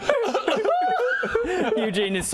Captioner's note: cry.wav